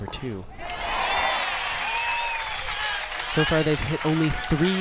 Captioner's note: crowd applauds